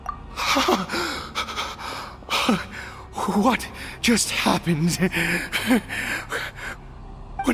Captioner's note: pant